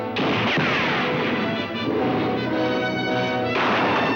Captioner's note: guns firing; whip cracking